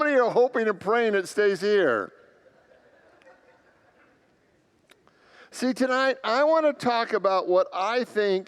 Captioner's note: congregants laugh